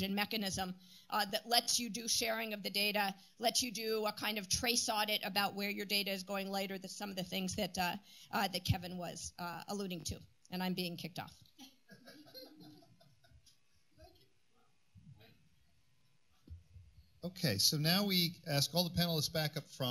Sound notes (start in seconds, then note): 11.9 laughter